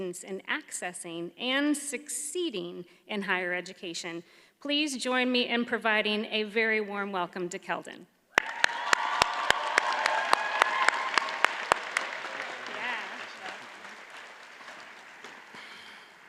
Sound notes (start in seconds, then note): 8.3 audience cheers and applauds